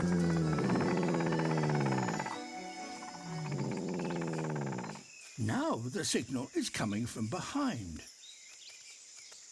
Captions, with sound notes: (DEEP, RESONANT RUMBLING) Now the signal is coming from behind.